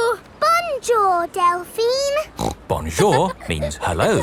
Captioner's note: snorts